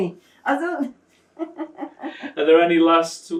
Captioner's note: laughing